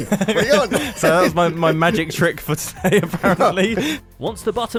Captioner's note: laughs